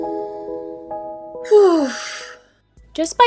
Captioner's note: nostalgic sigh